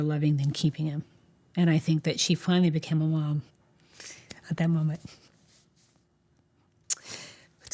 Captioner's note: voice breaking